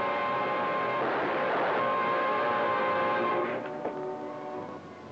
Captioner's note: guns blasting; solemn music